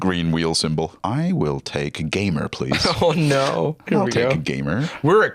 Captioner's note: laughing